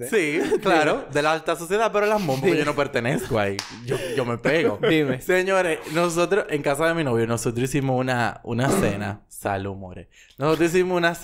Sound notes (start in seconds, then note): 3.8 laughs; 8.6 sneeze